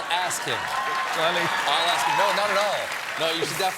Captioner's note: cheers and applause